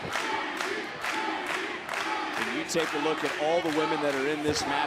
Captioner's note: crowd cheering